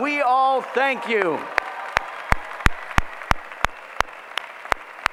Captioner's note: applause